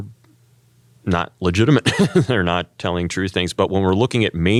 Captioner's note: laugh